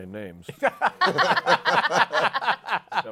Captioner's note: laughter